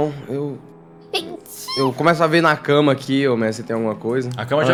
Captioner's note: sneezes